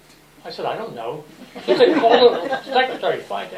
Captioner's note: laughter